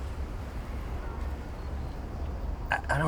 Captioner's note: car engines revving